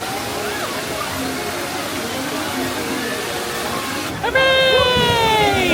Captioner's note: gentle music; water trickling